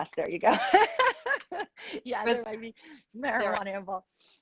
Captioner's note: laughs